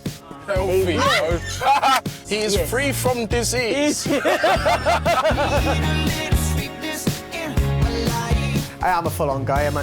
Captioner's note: laughs